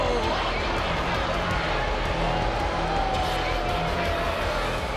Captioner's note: crowd boos